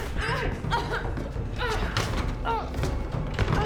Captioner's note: Claire whimpering